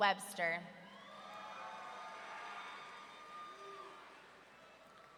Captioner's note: audience cheering